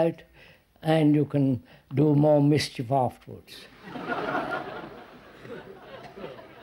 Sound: laughter

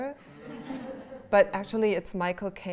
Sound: laughter

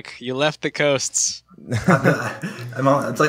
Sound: laughter

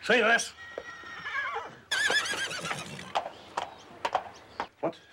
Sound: horse neighing

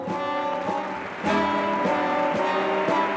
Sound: applause

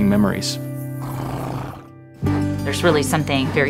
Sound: donkey snorting

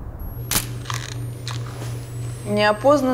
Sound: camera clicking

